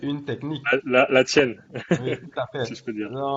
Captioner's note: laughs